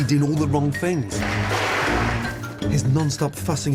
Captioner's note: loud metal clanging